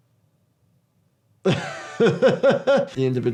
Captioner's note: laughing